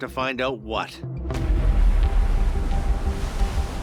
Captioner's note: wave crashes